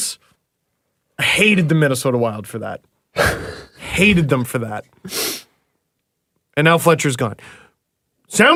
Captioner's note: laughs